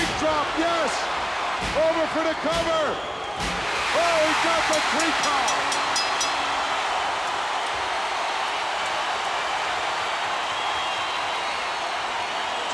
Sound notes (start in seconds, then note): 5.6 crowd cheers